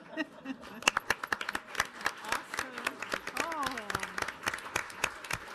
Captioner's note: audience applauding